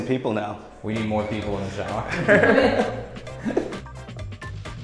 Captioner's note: laughs